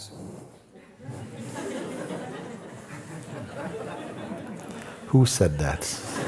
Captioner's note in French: rires